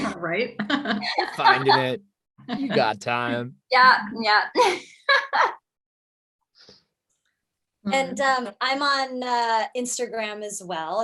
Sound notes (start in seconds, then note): 0.6 group laughing; 5.6 laughs